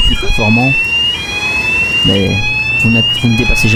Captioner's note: fire alarm